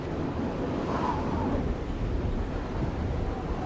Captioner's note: wind blowing